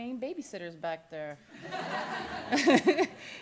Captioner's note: laughter